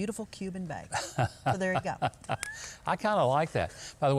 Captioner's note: Governor laughing